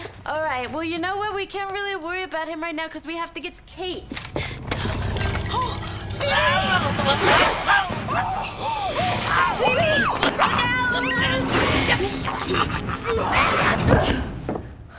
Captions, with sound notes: All right, well, you know what, we can't really worry about him right now because we have to get Kate. Oh, Phoebe! [troll growls] Phoebe, look out!